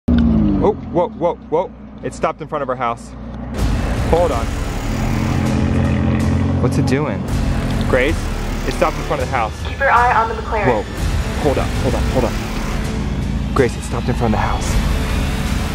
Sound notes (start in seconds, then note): 0.2 car engine slows; 4.0 booming suspense music